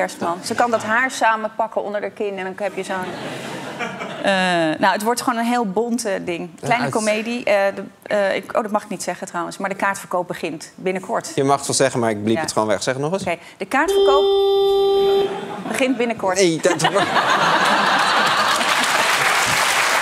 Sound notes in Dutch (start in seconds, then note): 5.8 gelach; 13.8 autoclaxon toetert; 16.7 gelach en applaus